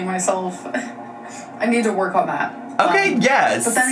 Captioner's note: laughs